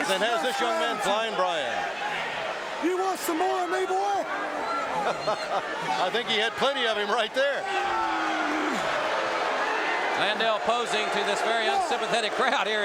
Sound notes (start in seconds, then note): 4.9 chuckles; 8.0 audience cheering